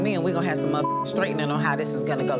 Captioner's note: beep